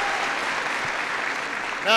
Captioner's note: applause